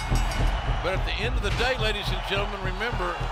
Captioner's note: bell ringing